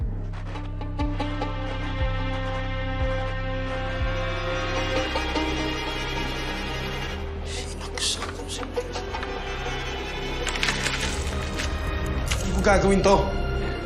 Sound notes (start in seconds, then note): 0.2 sinister music playing; 10.4 paper crumpling